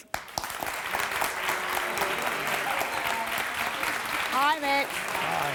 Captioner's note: light applause with some boos